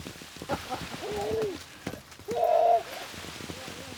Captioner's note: laughs